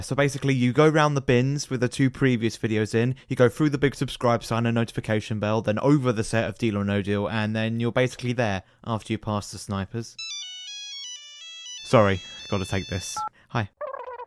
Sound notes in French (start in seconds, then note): 10.2 sonnerie Nokia; 14.0 bavardage téléphonique